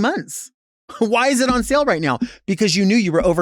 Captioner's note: laughs